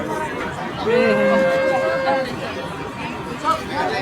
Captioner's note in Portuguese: Vozes felizes